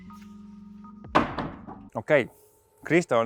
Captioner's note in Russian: двери закрываются